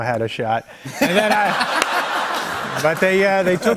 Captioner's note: laughter